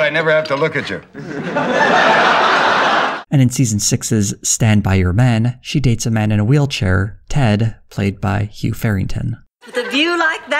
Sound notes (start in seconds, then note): 1.0 audience laughter